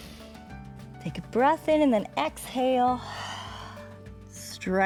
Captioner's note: exhales